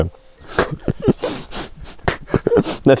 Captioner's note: spitting out